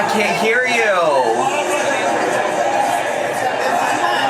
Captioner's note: speaks faintly